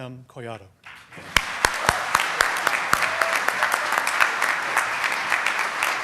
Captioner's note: applause